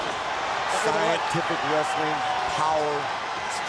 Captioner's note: crowd cheering; crowd chatter